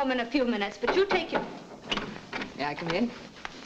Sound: knocking at door

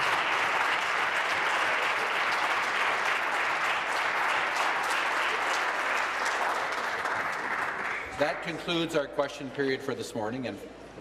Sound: applause

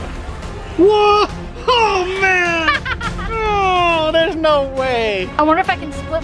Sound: scream

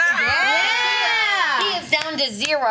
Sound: cheers

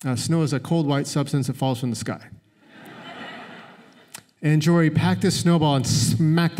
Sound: laughter

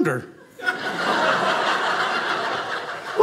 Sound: audience laughing

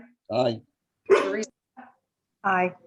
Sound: sneezes

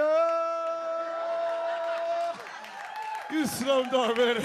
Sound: audience laughs

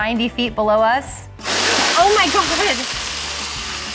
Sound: water splashing

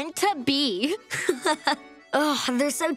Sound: laughing

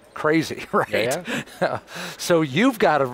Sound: chuckles

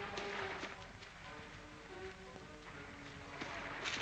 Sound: waves lapping

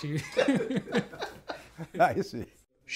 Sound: laughter

